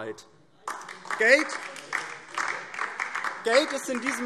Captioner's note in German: Beifall DIE LINKE